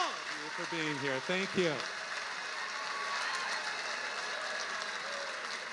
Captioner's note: audience applauding